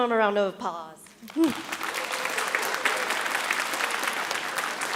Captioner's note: audience applauding